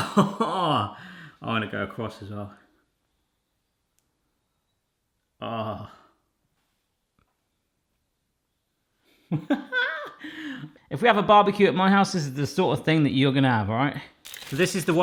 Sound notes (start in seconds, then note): 9.3 chuckles